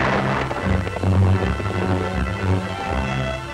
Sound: gun shots

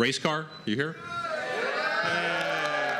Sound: cheering

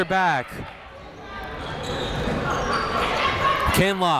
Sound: people shouting in the crowd

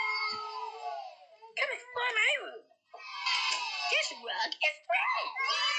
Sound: kids Cheering; kids Cheering; kids Cheering

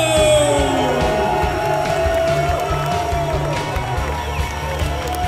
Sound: crowd cheering

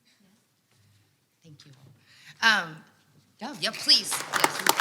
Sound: audience applauds

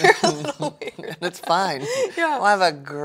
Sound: laughs

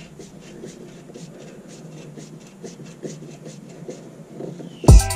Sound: screwing noise

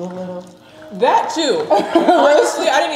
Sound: chuckling

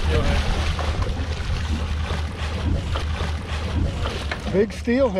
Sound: fish splashing

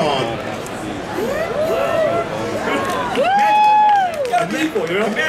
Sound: audience cheering

